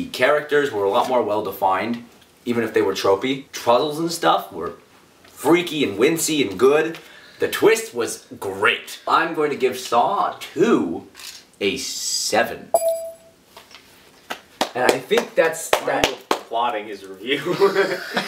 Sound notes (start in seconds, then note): 15.6 clapping